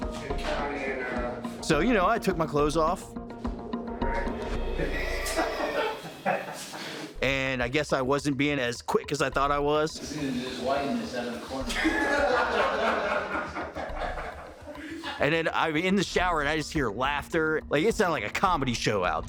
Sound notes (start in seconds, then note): 4.7 inmates laughing; 12.4 inmates laugh